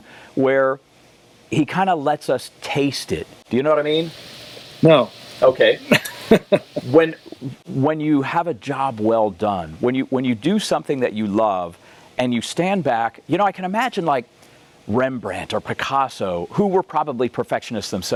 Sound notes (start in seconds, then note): 5.5 laughs